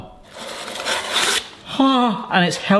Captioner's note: foil rustles